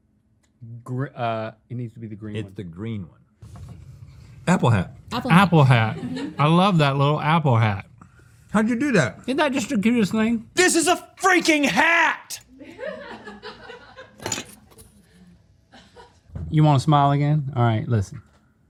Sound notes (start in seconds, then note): 12.5 laughter